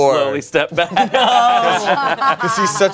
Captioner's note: everyone laughs